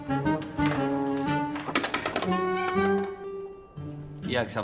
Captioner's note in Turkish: Kapa açma sesi